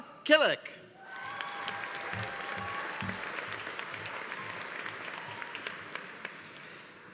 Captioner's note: audience cheering; audience applauding